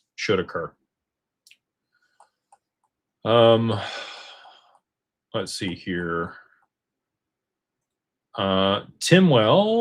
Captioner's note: sighs